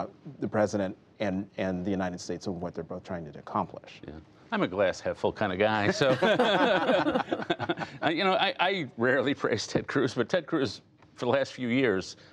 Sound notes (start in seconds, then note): 5.8 laughter